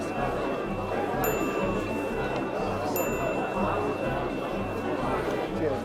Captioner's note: pinging; tick pinging